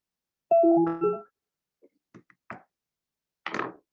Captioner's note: phone beeps